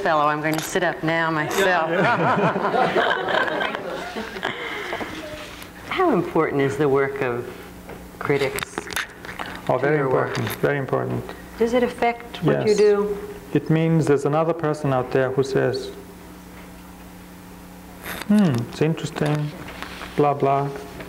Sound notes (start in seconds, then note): 1.7 crowd laughing